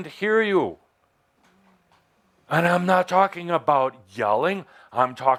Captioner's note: speaking very intensely